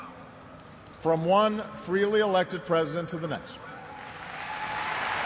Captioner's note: crowd boos